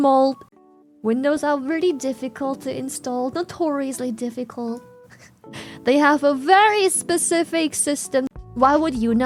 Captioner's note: laughs